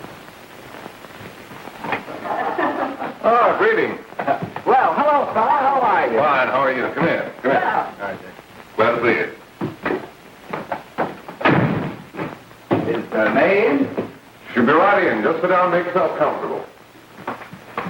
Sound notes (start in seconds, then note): 11.4 door slams